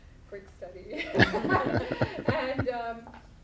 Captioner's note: laughs